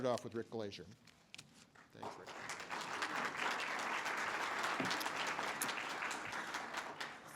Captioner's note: audience applause